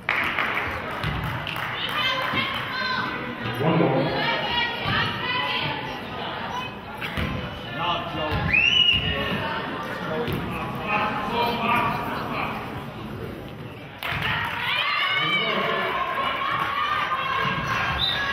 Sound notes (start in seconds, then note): 0.0 clapping; 0.3 players hollering; 9.1 audience murmurs